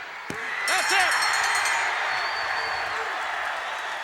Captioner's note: bell ringing; crowd cheering